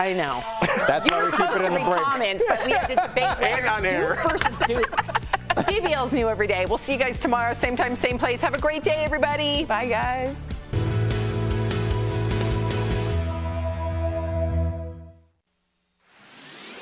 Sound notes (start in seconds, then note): 6.7 laughter